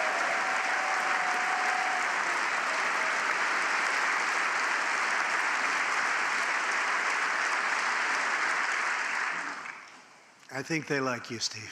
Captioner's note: applause